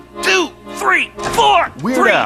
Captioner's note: door opens